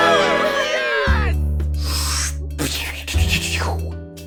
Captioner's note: cheer; spitting noises